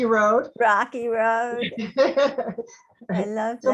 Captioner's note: laughing